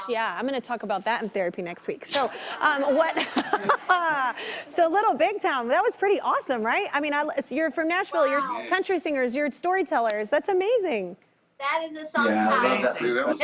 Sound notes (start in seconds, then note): 2.6 laughs